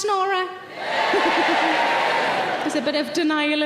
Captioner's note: more audience members cheering